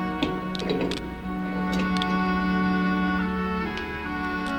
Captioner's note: handcuffs click